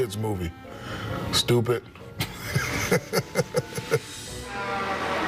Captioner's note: laughs